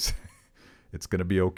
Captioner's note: chuckling